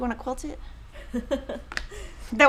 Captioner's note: chuckling